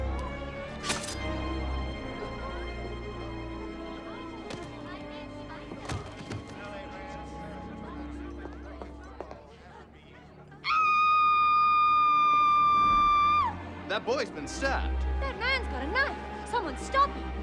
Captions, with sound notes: (FOOTSTEPS APPROACHING) (SCREAMING) That boy's been stabbed! That man's got a knife! Someone stop him!